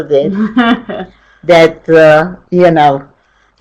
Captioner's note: chuckles